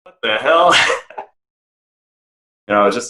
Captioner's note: laughing